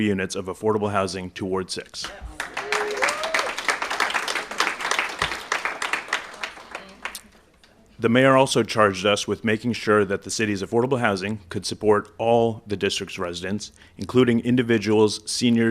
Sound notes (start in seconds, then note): 4.8 applause